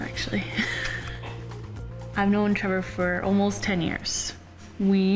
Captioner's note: laughs